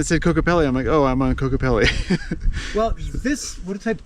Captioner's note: laughs